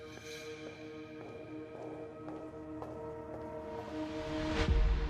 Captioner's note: footsteps receding; tense music